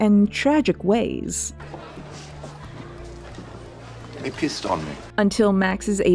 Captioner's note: Anne sniffs